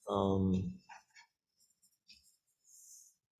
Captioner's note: silence